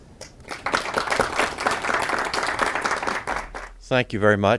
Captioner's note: audience clapping